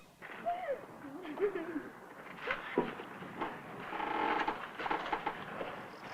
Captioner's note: judy laughs